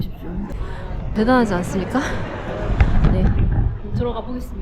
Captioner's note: heart racing